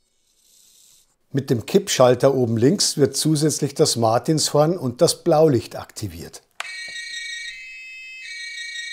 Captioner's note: siren